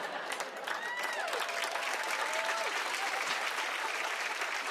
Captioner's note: cheers and applause